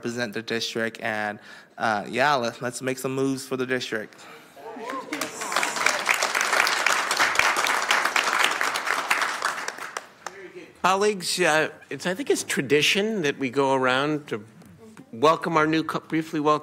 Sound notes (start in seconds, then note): 9.4 applause